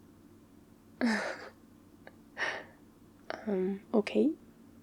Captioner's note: laughs